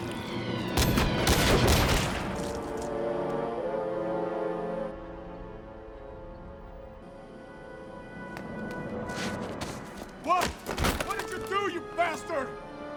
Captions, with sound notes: (gunshots banging) What? What did you do, you bastard?